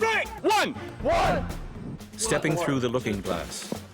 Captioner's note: voiceover